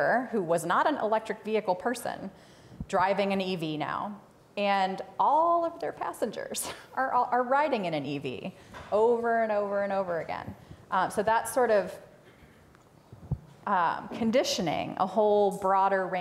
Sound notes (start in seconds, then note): none